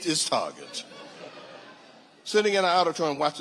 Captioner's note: audience laughing